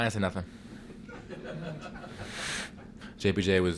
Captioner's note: chuckling